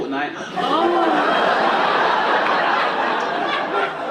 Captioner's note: orgasmic moaning; audience laughing